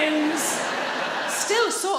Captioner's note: audience laughing